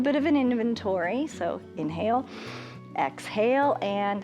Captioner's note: inhales